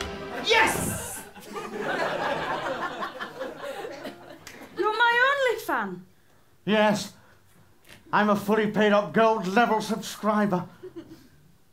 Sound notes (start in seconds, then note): 1.1 laughter